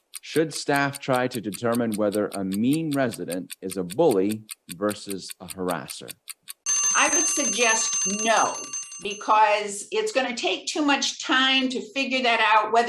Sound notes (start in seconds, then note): 0.0 timer continues ticking; 6.6 alarm ringing loudly